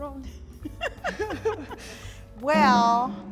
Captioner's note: laughing